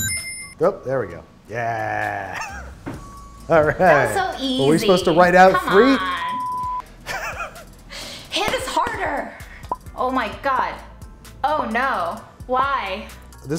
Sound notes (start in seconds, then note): 0.0 bright chime rings; 7.0 they laugh; 9.6 timer ticks